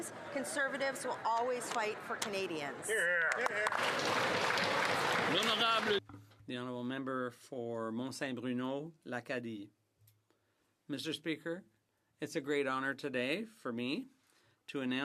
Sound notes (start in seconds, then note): 5.8 some Applause